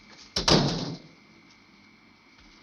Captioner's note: door banging